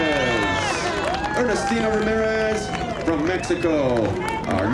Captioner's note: applause